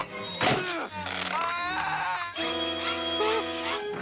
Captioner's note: screaming